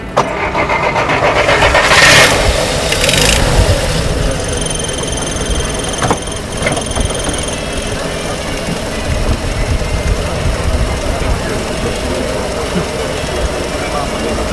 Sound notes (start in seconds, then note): 0.2 the engine starts; 4.8 the engine idles